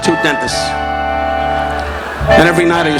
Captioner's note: audience laughing